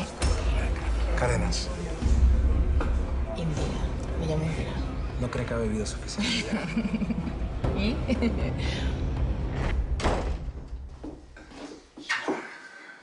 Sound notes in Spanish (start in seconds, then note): 3.8 En voz baja; 7.8 Ella ríe; 9.8 Portazo